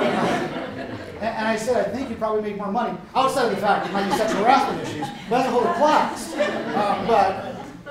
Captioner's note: laughter